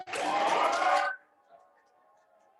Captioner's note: applause